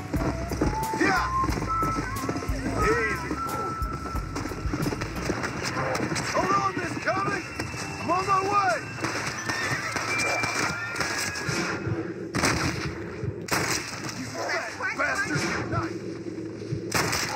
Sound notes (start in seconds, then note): 4.7 random gunshots